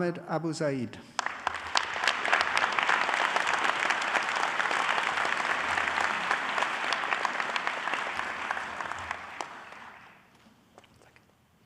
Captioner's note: applause